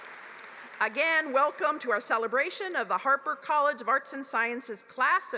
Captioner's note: applause